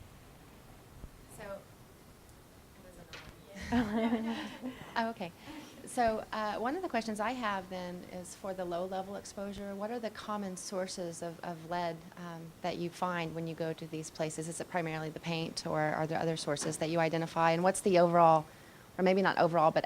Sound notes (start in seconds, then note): 3.6 laughter